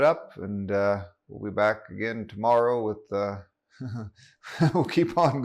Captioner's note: laughs